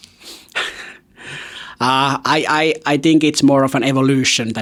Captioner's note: laughs